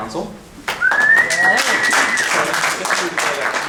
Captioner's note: cheering and clapping